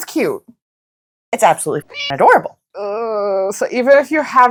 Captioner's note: meow